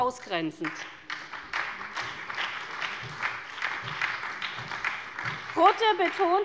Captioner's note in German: Beifall bei der SPD